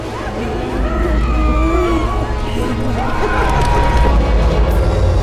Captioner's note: women laughing; woman screaming